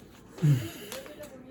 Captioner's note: sigh